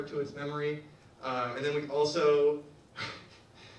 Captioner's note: laughs